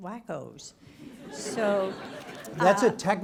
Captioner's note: audience laughs